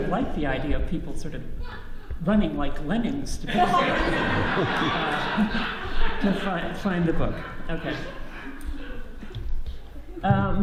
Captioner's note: audience laughs